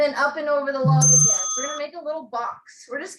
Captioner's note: bell rings